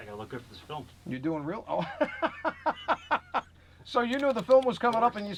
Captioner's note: laughing